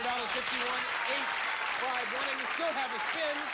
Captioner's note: cheers and applause